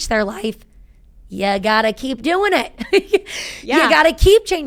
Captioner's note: chuckling